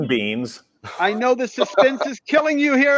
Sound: laughs

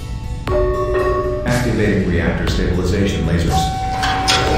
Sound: announcement Chime; laser bootup sound

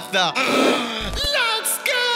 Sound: gasps

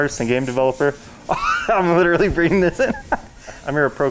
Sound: chuckles

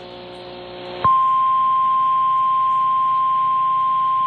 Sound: 1050 HZ tone

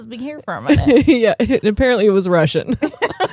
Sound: both laughing; laughs

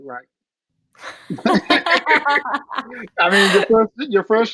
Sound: laughter

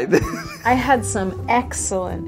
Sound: laughing

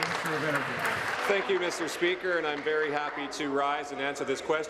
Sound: applause

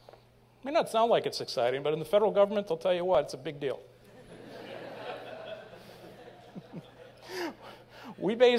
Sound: laughter

